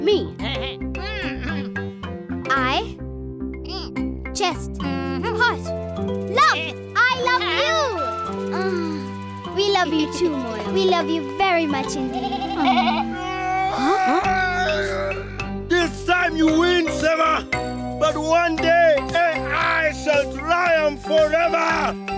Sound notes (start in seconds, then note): 1.0 grunting; 12.1 bleating; 13.6 growling